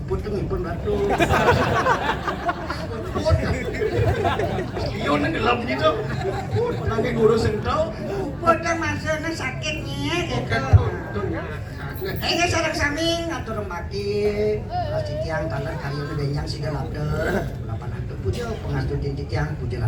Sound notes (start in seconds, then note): 0.9 laughs